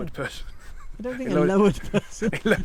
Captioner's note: laughs